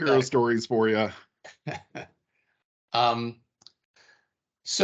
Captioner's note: laughing